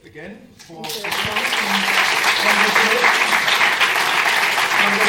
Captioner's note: applause